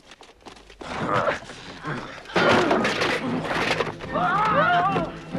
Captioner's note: Hundra and guards grunting; dramatic music